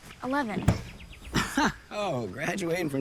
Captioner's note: scoffs